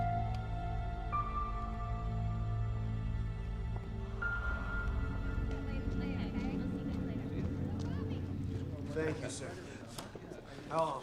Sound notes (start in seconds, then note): 0.1 suspenseful music; 6.6 students chattering